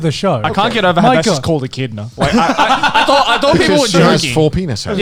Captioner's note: laughs